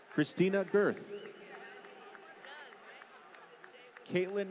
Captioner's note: applause